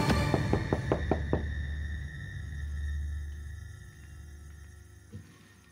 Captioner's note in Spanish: Toques en la puerta